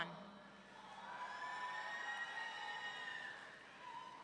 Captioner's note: audience cheering